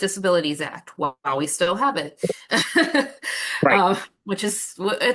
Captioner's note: chuckles